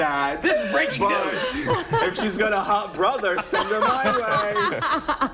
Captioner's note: laughter